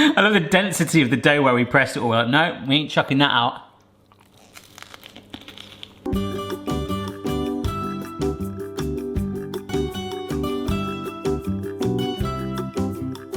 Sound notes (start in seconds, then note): 4.0 bread crunching; 6.1 upbeat music